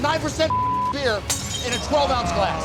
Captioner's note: beep; glass shatters